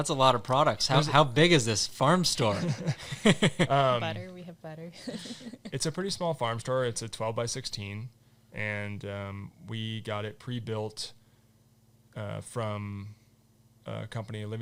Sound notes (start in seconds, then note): 2.4 all laughing; 4.9 laughing